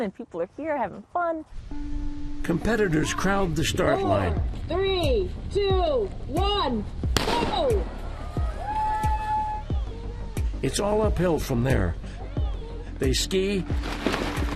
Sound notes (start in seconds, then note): 7.1 gun blasting; 7.6 competitors cheering